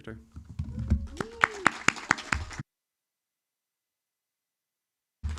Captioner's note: audience applauds